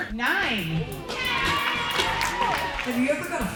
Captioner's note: all applaud and cheer